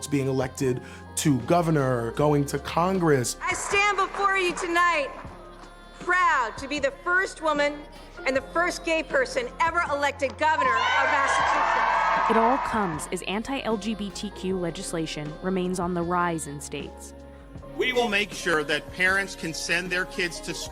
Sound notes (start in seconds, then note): 10.6 audience cheering